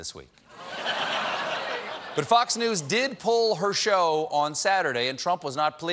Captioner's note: laughter